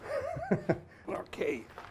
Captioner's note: laughs